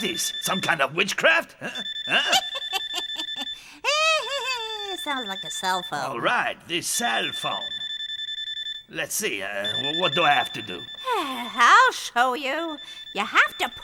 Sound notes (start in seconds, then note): 2.0 witch cackles